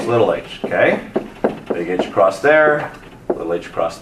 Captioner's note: marker thudding